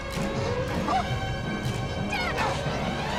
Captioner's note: shout